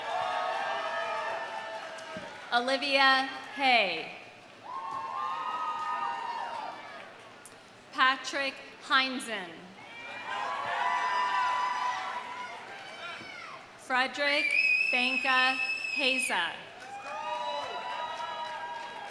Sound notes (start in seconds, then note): 0.0 audience cheering; 0.0 audience applauding; 4.6 audience cheering; 9.8 audience cheering; 14.5 audience member whistling; 18.8 audience applauding; 18.8 audience cheering